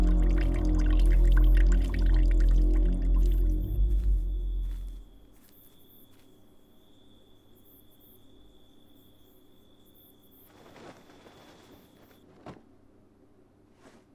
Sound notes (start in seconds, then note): 4.7 crickets chirp; 10.7 cloth rustles